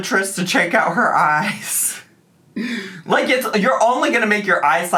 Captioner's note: laughs